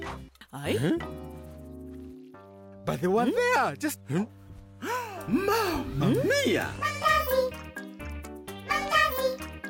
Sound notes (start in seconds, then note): 4.8 gasping; 6.8 sing